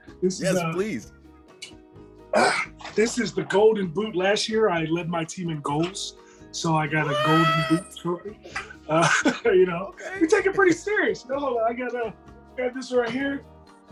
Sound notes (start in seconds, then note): 7.0 laugh